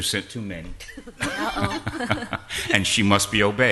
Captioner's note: laughter